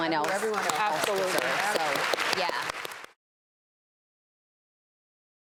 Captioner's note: audience applause